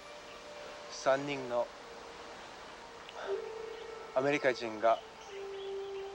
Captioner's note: speaking foreign language